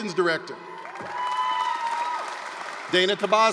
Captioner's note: applause, cheering